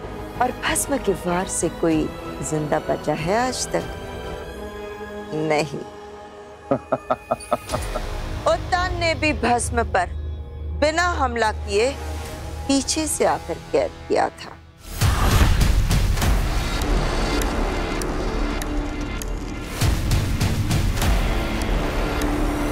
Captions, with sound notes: Has anyone ever survived Bhasm's attacks till today? No. [giggles] Uttan also captured Bhasm from behind without attacking him. [suspenseful music] [suspenseful music]